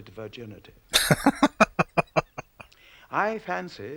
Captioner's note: laughing